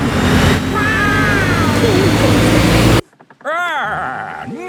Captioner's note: laughing